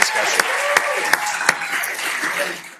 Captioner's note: cheering, applause